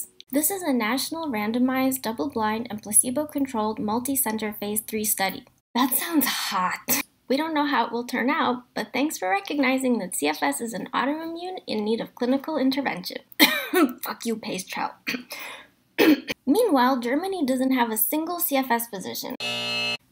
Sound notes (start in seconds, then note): 13.3 cough